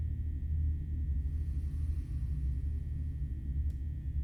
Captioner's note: executioner breathes deeply